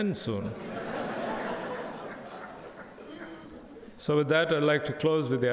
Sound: crowd laughing

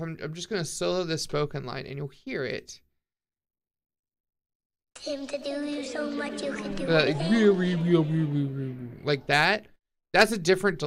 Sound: imitates worbling effect

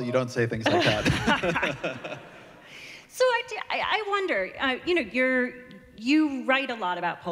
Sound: laughter

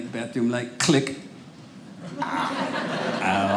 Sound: audience laughing

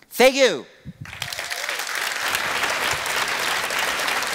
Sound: applause

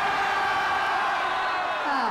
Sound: cheering

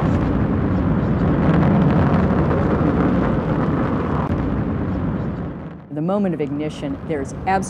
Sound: rocket launch

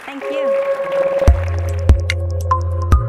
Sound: applause

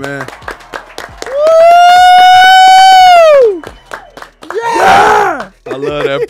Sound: group applauds; cheers

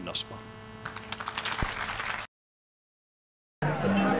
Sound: applause

